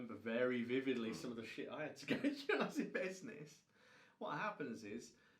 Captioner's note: chuckles